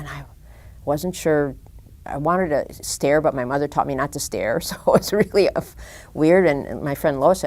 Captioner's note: chuckle